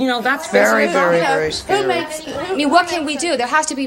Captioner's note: audience chattering